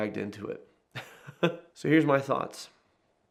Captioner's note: laughing